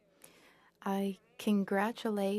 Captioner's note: speaking French